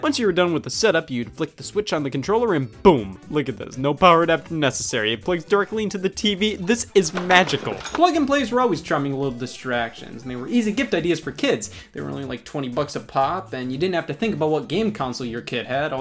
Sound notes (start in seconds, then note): none